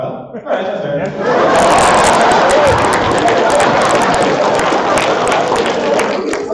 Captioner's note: laughter